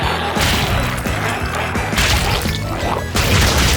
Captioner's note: energetic music continues; goo splatters